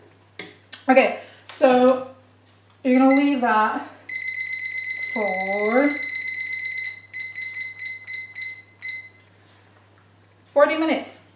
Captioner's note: timer bleeps